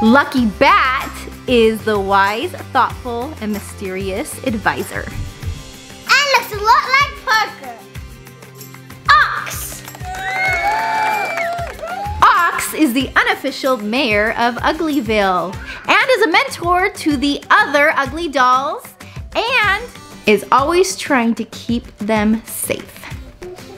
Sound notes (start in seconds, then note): 9.7 audience cheering, clapping, whistling